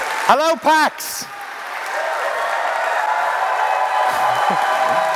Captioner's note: cheers